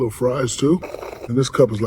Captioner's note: slurp